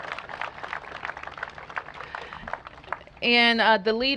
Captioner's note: applause